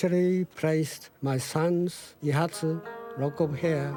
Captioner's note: speaking in foreign language